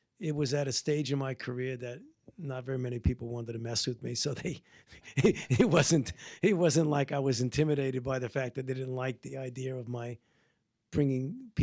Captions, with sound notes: It was at a stage in my career that not very many people wanted to mess with me so they, (laughs) it wasn't like I was intimidated by the fact that they didn't like the idea of my bringing